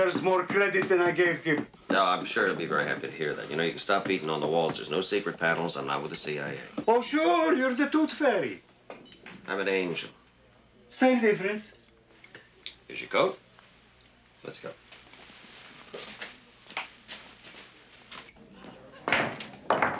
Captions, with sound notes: more credit than I gave him. Oh, I'm sure He'll be very happy to hear that. You know, you can stop beating on the walls. There's no secret panels. I'm not with the CIA. Oh, sure. You're the tooth fairy. I'm an angel. Same difference. Here's your coat. Let's go. [chatter] [pool balls clacking]